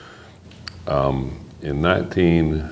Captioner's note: none